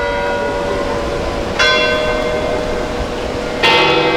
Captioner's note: bell dinging